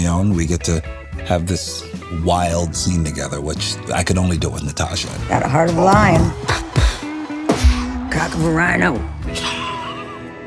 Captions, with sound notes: we get to have this wild scene together, which I could only do with Natasha. Got a heart of a lion. (SHARP EXHALES) -Cock of a rhino. -(CHUCKLES)